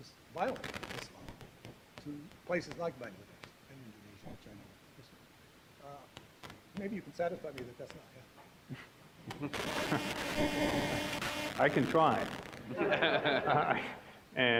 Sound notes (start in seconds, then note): 9.2 chuckling; 9.3 microphone distortion; 12.6 audience laughing